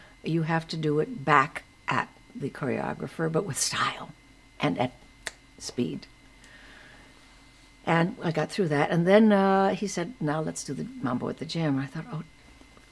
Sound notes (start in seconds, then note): 5.2 fingers snap